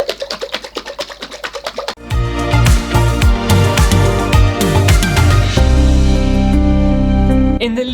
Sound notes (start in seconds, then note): 0.0 liquid Sloshing; 2.0 intro Music